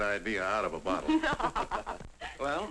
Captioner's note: people laughing